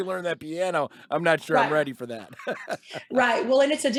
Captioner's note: chuckles